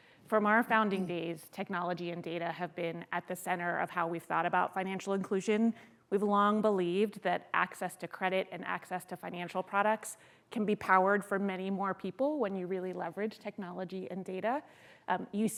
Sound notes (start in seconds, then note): none